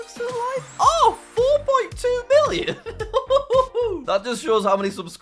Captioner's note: laughs